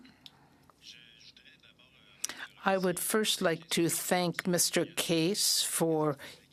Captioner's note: speaking French